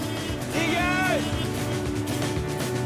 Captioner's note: car honking; upbeat music